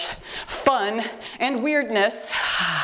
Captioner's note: timer beeps